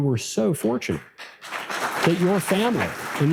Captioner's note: audience applause